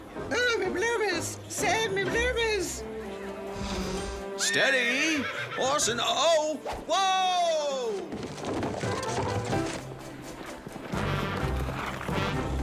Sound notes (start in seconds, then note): 4.4 neighing